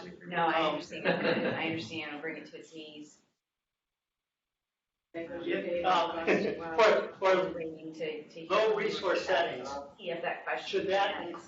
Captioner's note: indistinct chatter, interposed voices